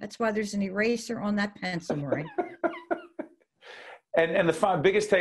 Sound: laughing

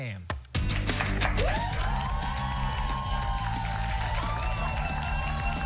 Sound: cheers and applause

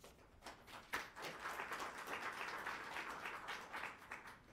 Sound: applause

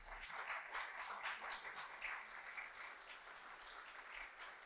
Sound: audience applauds

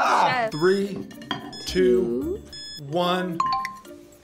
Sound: clock beeps

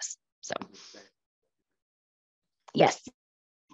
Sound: participant 1 faintly speaking

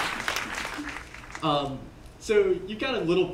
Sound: applause

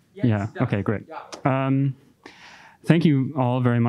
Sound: speaks in foreign language

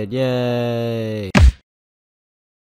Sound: thump

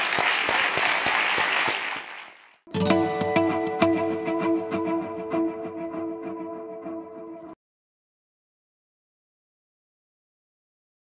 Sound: applause

